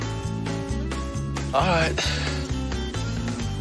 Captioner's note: sighs